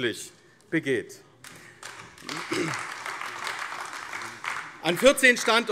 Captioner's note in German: Beifall AfD